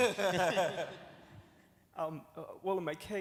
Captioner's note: laughs